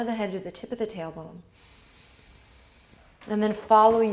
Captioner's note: inhales